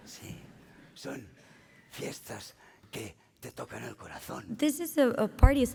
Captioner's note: speaking spanish